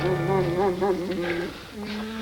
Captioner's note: dog Whining